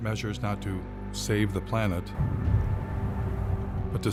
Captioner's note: thunder crashing